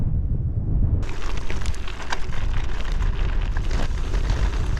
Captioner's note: strong wind; tyres on gravel